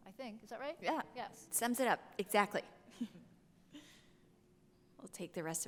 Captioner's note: chuckles